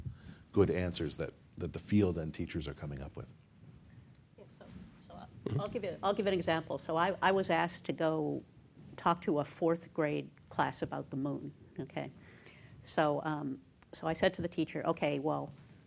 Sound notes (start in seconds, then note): 4.0 talking off mic